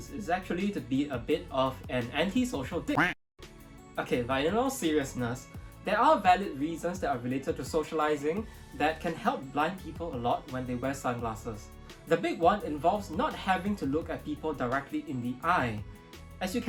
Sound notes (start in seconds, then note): 3.0 duck quaking